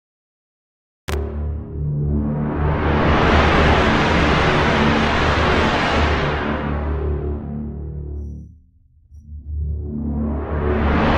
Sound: sound of cinematic storm

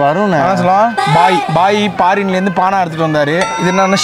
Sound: foreign

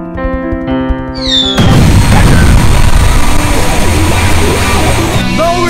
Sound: missile drop and explosion

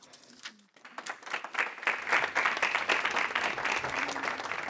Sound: applause

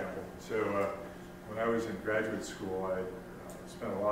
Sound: voiceover

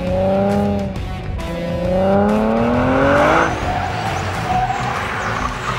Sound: car accelerating

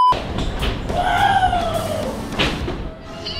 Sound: screams

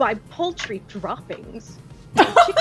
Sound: explosive laughter

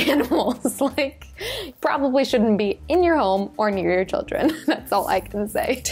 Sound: laughs

